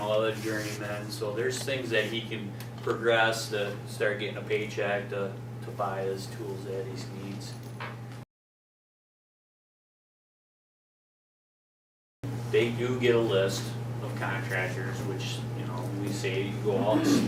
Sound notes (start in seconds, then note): 8.2 silence